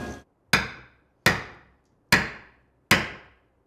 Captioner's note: tool banging